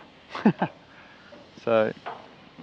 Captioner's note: laughing